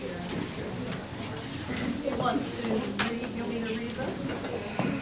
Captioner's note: crowd talking indistinctly